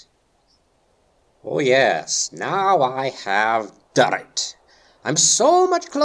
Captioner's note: sarcastically